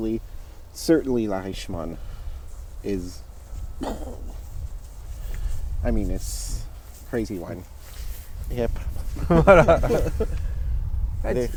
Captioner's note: makes an exploding sound